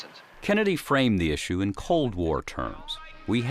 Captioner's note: voiceover